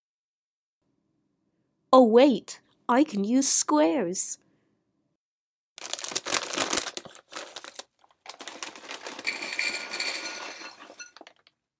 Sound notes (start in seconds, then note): 5.7 squares bag rustling; 8.2 squares pouring into bowl